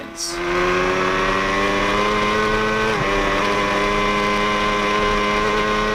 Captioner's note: motorcycle engine roaring